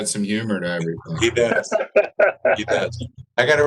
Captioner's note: laughter